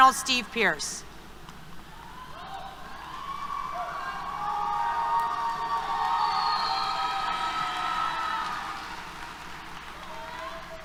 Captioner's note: applause, Cheers